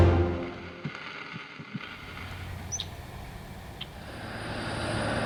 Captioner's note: machine running